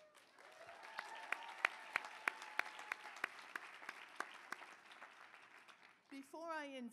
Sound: applause

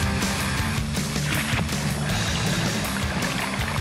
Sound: splashing

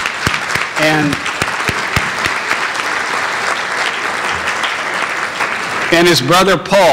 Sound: applause

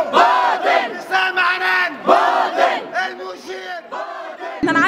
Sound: chants

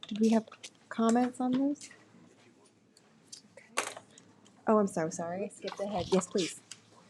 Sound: none

